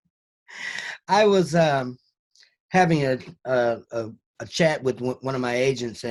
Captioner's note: gasps